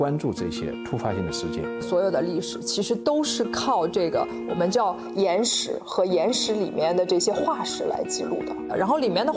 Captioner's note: speaking Chinese